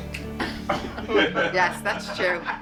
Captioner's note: laughing